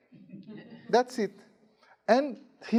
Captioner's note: students giggling